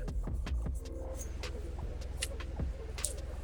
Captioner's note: crackling